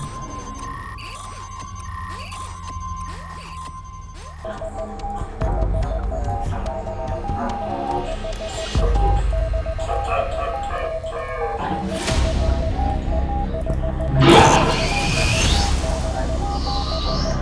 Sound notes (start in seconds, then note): 0.5 electronic beeping; 5.1 phone beeping; 14.1 machinery hissing